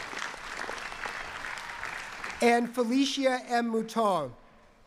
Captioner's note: cheering and applause